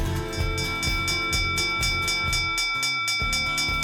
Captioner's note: bell dinging